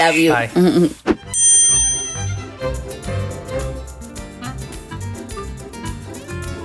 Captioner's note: mischievous music; bell dings